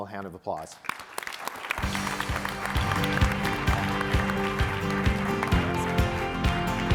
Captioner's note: all applauding; upbeat music